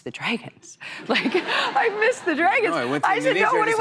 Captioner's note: laughter